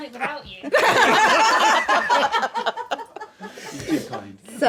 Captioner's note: laughing